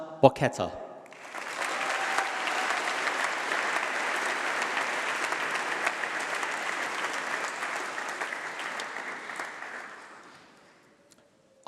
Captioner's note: applause